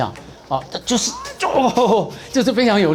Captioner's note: chuckling and mimicking him